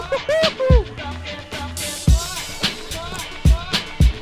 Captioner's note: shouts